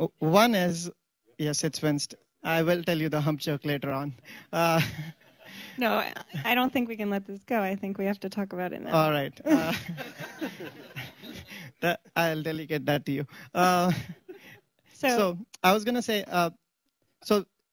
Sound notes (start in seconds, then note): 4.4 laughs; 4.7 laughter; 9.4 laughs; 11.9 laughter